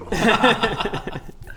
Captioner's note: manipulated laughter